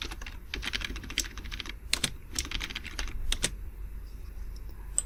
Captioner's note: keyboard keys click